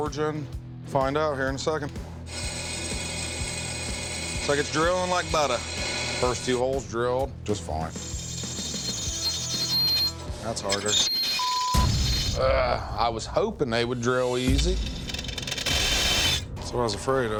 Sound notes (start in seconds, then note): 7.8 grinding noise; 13.8 grinding noise